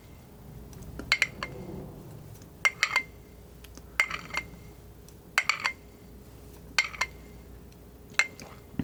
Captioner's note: scratching